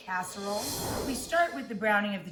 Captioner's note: scene whooshing